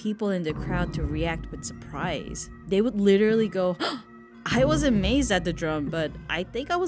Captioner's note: gasp